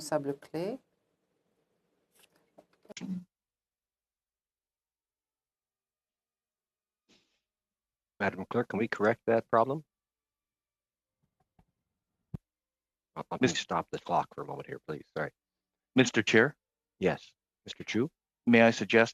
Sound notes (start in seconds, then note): 4.6 speaking French